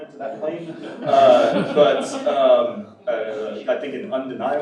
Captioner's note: audience laughs